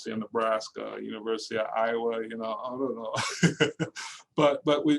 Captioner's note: laughing